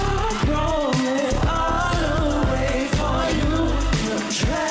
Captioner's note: crowd cheering